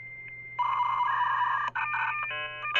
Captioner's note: beeping